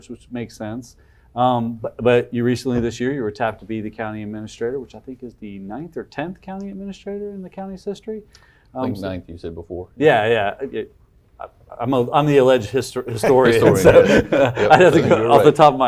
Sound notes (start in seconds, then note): 13.2 laughing